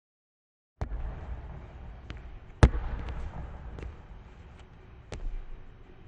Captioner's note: basketball thudding